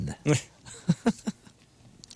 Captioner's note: laughing